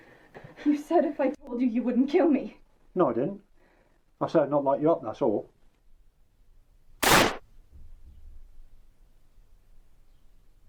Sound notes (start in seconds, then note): 7.0 bang